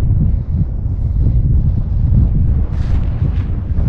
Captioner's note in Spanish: viento